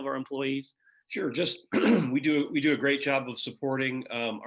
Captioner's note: coughs